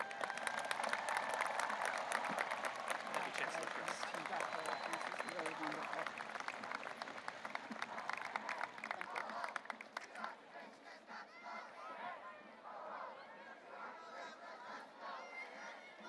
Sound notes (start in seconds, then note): 0.2 audience cheering and applauding; 4.4 chancellor faintly speaking; 10.2 students chanting